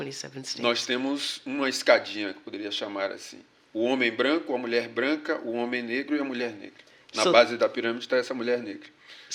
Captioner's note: speaking portuguese